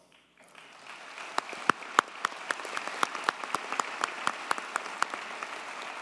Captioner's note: audience cheers and applauds